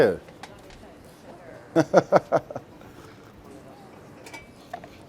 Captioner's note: laughs